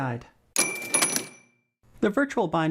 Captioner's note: bell rings